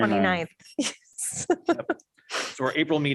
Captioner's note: laughter